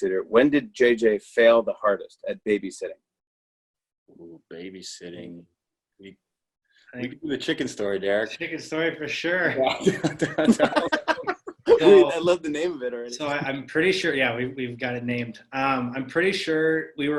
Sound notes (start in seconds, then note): 9.7 laughter